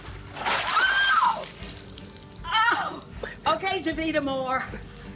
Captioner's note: screaming